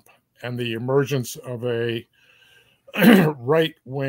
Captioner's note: cough